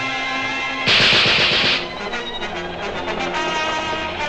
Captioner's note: gun banging